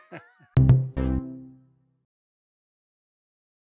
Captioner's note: laughing; tone beats